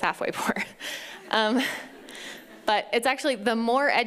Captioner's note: laughs